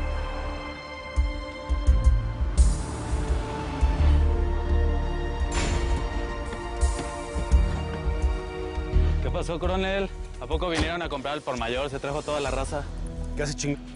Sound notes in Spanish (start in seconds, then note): 4.8 Sonido del motor